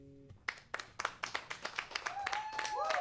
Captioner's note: applause and cheering